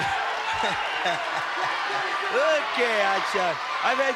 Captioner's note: chuckles